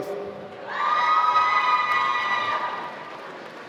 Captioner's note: applause